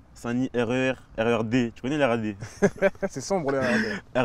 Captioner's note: laughs